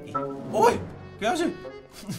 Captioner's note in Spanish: Sorprendido